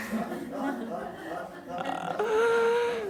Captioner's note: laughter